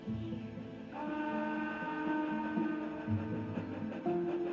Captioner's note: horn blowing